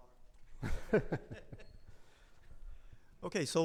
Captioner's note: chuckles